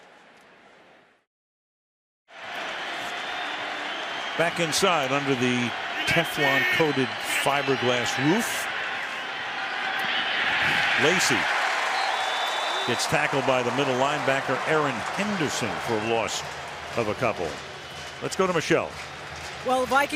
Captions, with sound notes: [cheering] Back inside under the Teflon-coated fiberglass roof. Lacy. [whistle blows] Gets tackled by the middle linebacker, Erin Henderson, for a loss of a couple. Let's go to Michele.